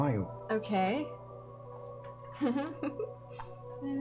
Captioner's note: nervous laughter